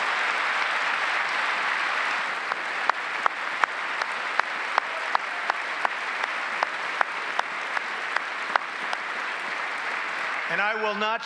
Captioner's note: applause